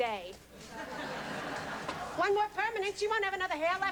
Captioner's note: laughter